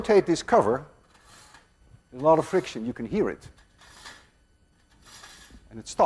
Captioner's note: metal lid grating